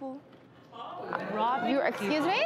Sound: audience jeers

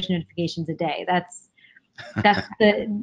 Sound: interviewer laughing

